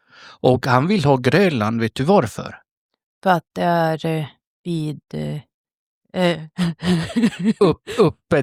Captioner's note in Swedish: skratt